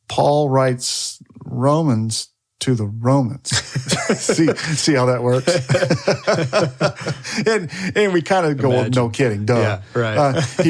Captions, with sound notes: Paul writes Romans to the Romans, (all laugh) see how that works? And we're kind of going, "No kidding, duh."